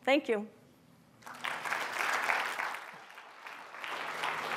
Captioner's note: audience clapping